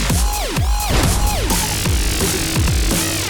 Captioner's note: boom!